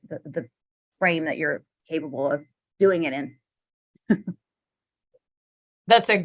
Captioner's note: laughter